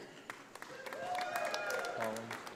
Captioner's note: audience applauding